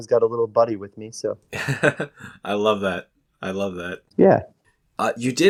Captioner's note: laughs